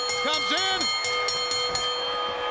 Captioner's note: bell ringing